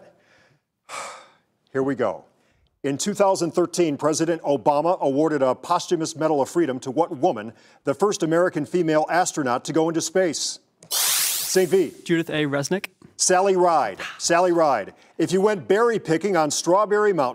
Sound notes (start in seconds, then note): 0.1 breathes out; 10.7 buzzing